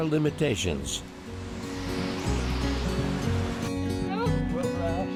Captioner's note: water rushes